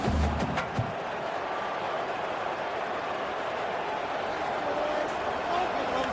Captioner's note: crowd Noises